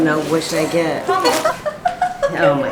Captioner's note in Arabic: ضحك